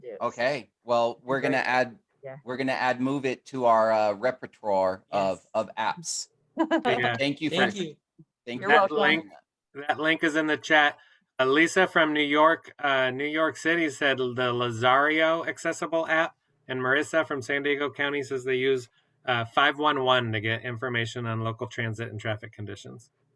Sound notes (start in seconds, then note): 6.7 laughter